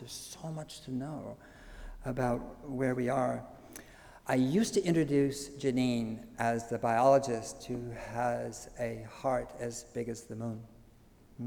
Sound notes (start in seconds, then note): none